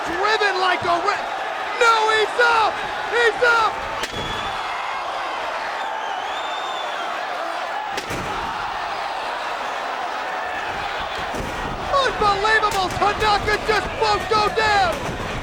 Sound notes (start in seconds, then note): 3.8 chair clunks; 4.8 crowd cheering; 8.0 chair clunks; 8.0 crowd exclaiming